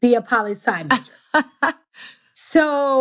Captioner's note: laughs